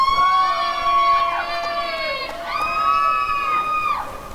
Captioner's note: applause and cheering